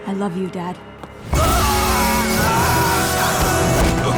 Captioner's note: screaming